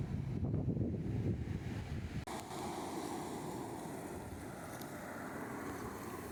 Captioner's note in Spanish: olas y viento